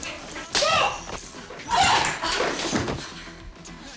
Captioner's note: loud slapping